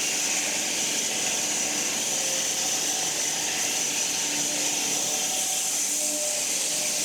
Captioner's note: woodcutting machine hissing continues